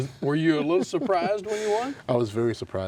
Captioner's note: laughs